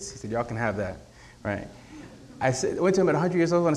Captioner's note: none